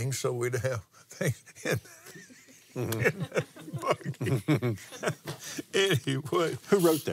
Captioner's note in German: lacht